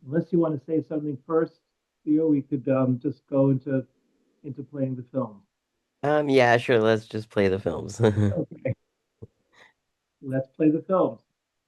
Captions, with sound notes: unless you wanna say something first, Theo, we could just go into playing the film. - Yeah, sure. Let's just play the films. (laughs) - Okay. Let's play the films.